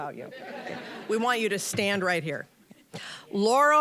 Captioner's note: audience laughing